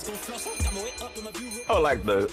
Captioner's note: bell ringing